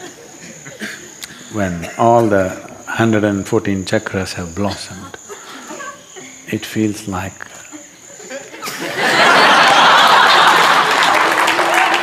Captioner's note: laughter/Applause; 笑聲/掌聲